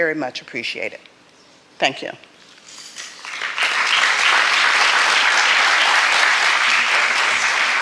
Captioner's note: applause